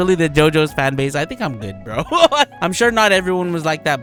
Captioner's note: laughs